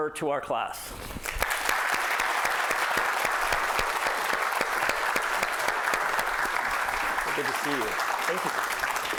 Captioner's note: applause